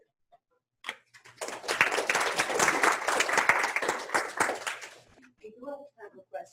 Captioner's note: clapping